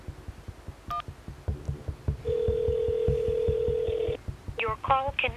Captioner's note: line ringing